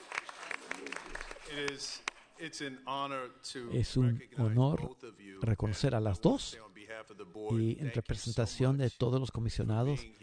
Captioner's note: applause